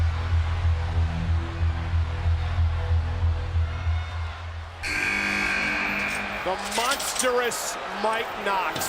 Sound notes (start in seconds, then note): 4.8 chamber buzzes